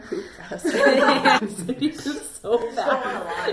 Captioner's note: laughing